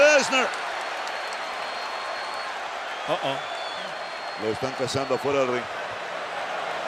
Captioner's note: applause